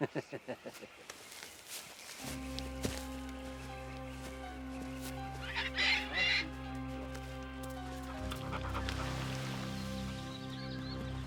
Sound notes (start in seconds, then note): 0.0 Savage laughing; 2.3 tense music; 5.5 Captain Flint squawking